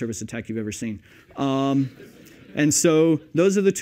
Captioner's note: laughter